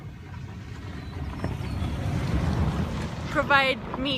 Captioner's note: sound of truck driving past on the road